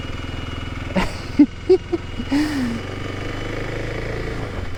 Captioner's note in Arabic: يضحك